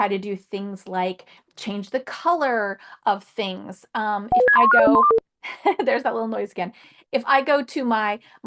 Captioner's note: beeping sound